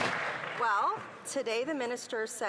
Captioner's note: some Applause